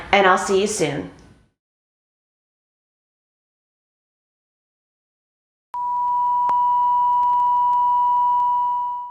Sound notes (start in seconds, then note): 5.8 electronic bleep